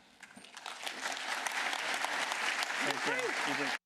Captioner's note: applause